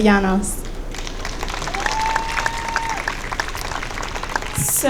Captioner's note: audience cheering